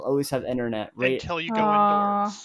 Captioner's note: laughing